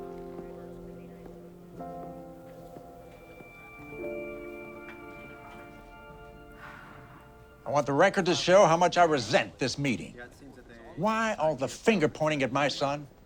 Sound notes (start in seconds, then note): 6.5 sighs